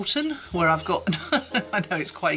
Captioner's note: laughing